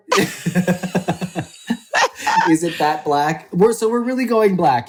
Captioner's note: laughs